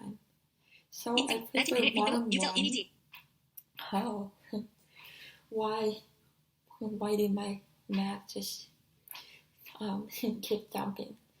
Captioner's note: text to speech